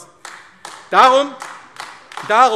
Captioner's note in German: Beifall AfD